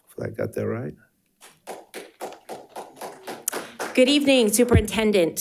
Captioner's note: audience applauding